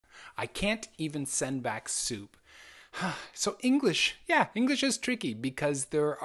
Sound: sigh

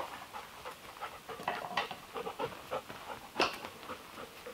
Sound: dog panting

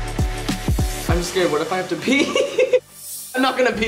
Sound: laughing

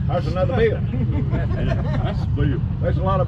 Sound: crowd laughing

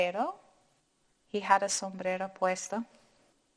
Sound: speaking in foreign language

